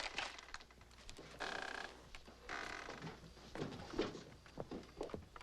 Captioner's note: chair creaks